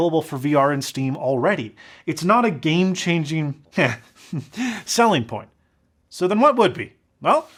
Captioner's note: heh